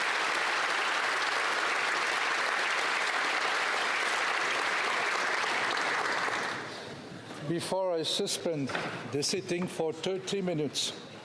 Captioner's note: applause